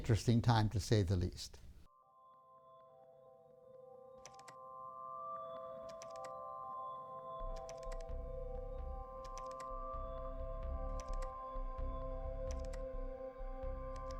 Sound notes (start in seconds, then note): 3.4 instrumental music plays; 9.2 keyboard clicking